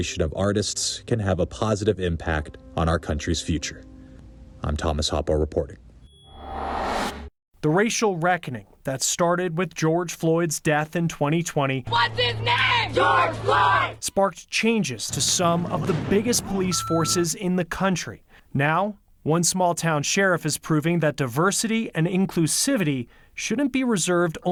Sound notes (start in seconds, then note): 12.1 crowd